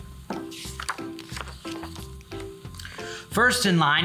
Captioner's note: page rustles